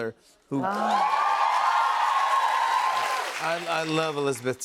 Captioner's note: cheers and applause